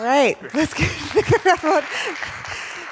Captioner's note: audience applauding